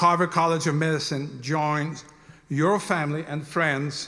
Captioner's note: none